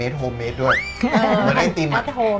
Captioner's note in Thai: หัวเราะ